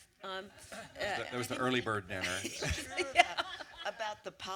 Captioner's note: laughter